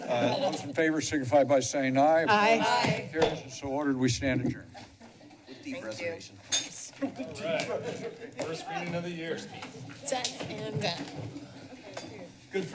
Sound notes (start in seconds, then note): 6.5 background chatter; 11.3 background chatter